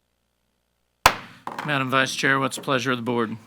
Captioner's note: gavel banging